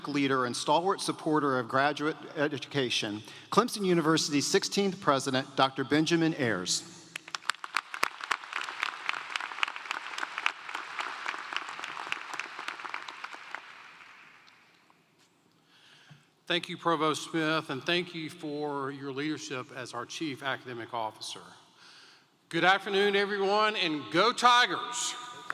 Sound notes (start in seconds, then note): 18.2 applause